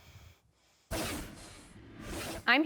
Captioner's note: transition scrapes; transition whooshes